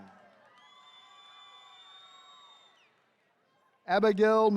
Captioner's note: attendees cheering